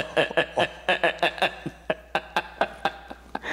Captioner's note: both laughing